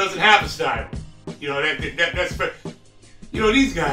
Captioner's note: stutters